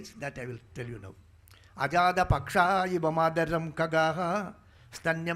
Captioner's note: speaking in Sanskrit